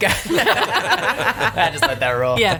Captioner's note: group laughing